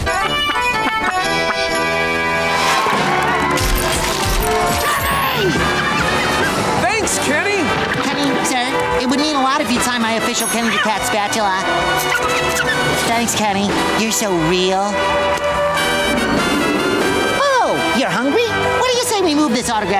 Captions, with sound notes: [cheering] Kenny! Thanks Kenny! Kenny sir, it would mean a lot if you'd sign my official Kenny the Cat spatula. Thanks Kenny, you're so real. Oh, you're hungry? What do you say we move this autograph